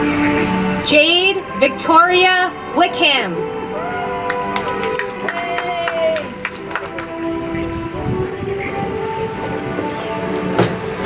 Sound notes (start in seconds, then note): 3.7 audience applauds; 8.4 soft music